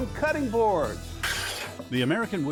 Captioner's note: wood scraping